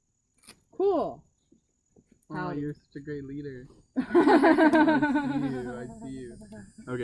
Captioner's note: laughs